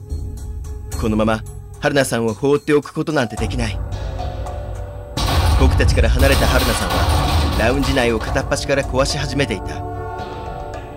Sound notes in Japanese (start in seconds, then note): 5.2 家具の衝突音：ガコン！ガシャン！ドゴン！